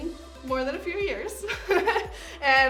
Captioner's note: laughs